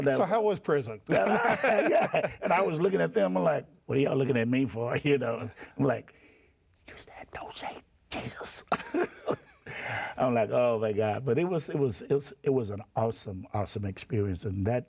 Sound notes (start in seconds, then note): 1.1 both laugh; 8.7 laughs